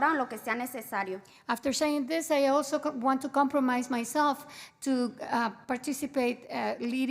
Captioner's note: spanish